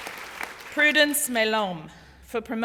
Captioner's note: applause